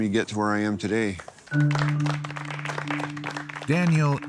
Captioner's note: claps